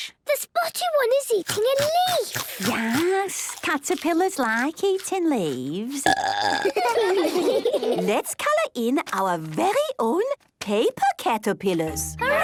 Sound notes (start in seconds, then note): 6.0 burping; 6.5 children giggling